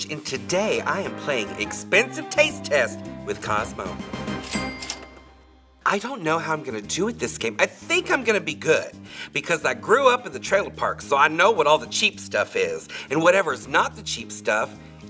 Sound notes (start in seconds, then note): 4.1 dramatic music; 4.4 cash register dings